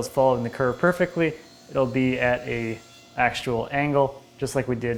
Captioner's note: bandsaw quietly whining